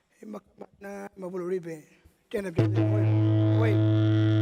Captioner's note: speaks native language; didgeridoo plays rhythmically